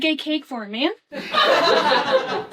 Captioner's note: laughing